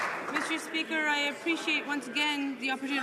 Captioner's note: some Applause